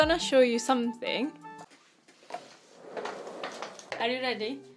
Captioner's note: sound of chair rolling